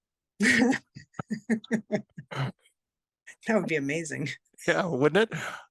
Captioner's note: laugh